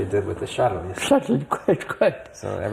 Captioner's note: laughs